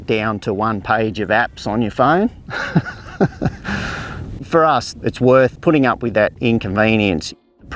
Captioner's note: laughs